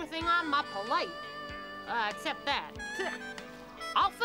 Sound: spits

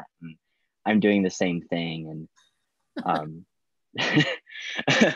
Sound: laughing

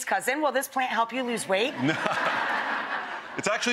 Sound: audience laughing

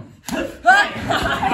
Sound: laughter

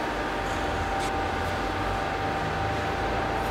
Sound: dull machine hum

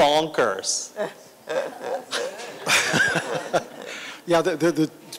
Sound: laughter

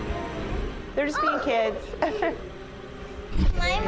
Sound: chuckles

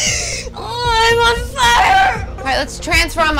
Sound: groans

